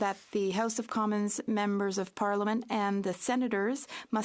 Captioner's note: speaking French